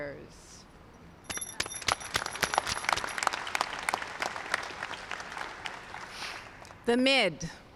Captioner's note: applause